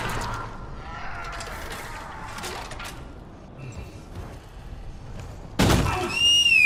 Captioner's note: Screaming necromorph sounds; slide whistle as head leaves body